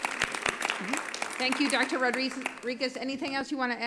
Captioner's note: applause